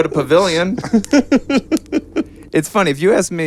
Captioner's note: laughing